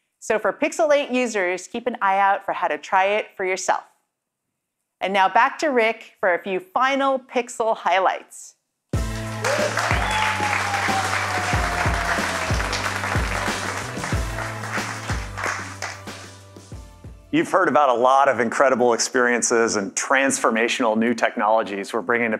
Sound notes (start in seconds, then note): 11.9 cheers and Applause